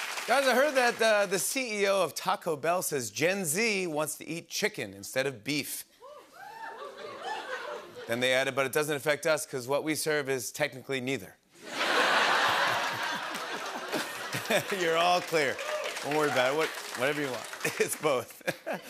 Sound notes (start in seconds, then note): 6.1 cheers; 11.6 laughter